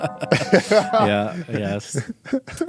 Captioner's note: laughing